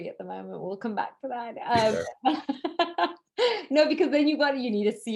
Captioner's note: laughs